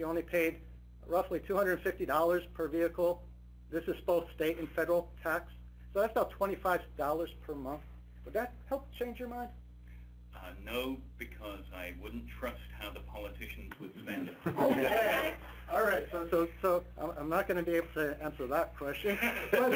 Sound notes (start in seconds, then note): 14.2 participants laughing